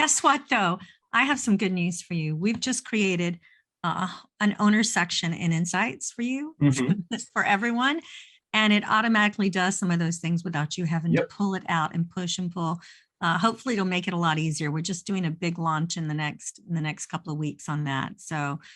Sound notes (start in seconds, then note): 6.6 chuckles